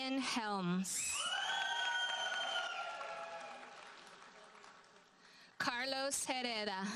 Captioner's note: audience cheers and applauds